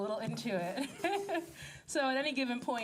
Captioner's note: laughing